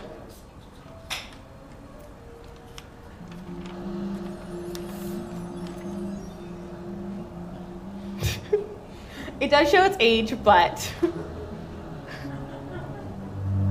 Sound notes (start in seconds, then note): 3.4 sweebly warbly noises